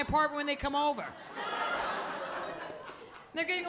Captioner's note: laughter